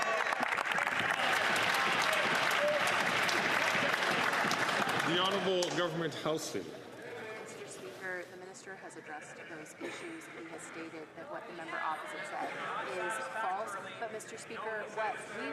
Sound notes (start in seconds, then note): 5.4 some Applause